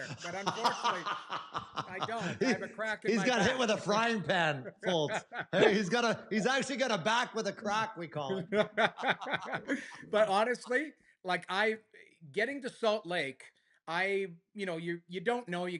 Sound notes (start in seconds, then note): 8.2 laughter